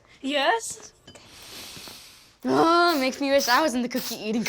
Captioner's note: sniffs